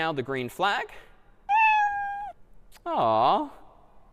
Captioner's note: meow